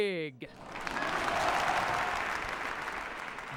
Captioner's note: cheering and applause